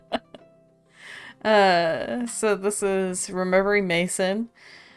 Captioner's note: laughter